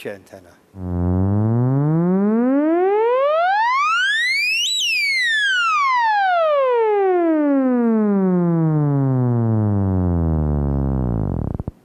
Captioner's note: electronic whirling sounds